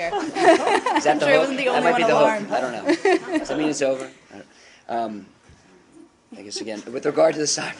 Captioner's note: laughter